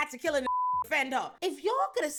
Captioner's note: beep